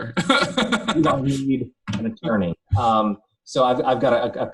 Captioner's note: laughs